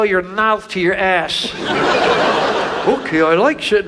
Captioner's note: audience laughs